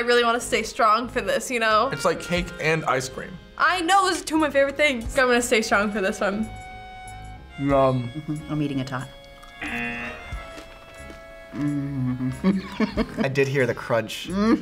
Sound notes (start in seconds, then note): 10.7 buzzer rings; 11.6 laughs